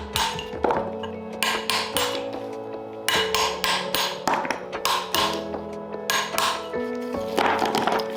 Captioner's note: drilling